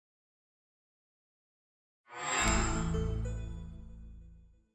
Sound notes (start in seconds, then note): 2.2 chime